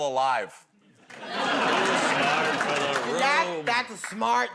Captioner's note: laughter